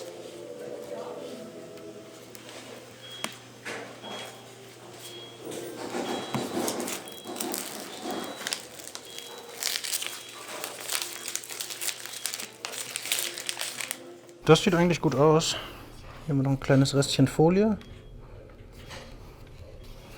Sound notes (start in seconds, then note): 2.8 beeping